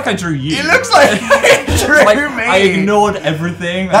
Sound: laughs

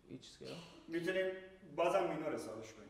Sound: speaking in farsi

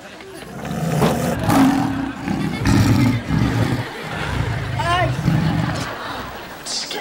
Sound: growling

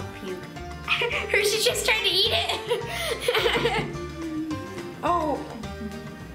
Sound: laughing

